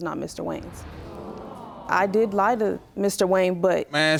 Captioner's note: audience gasping